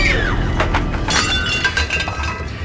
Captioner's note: screaming; crash